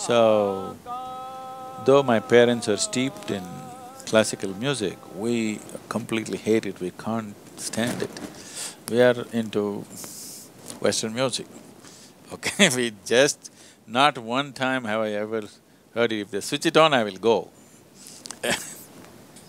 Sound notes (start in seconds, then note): 15.5 laughs